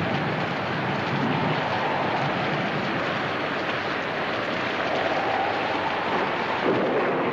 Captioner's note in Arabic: صوت الرعد; صوت عويل الرياح